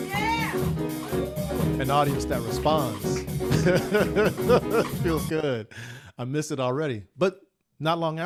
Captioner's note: laughs